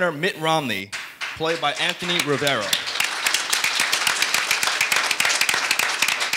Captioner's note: audience applauding